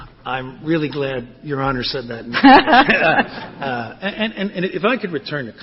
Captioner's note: laughter